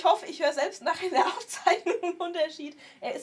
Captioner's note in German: gelächter